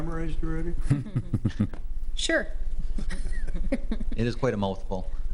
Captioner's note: laughs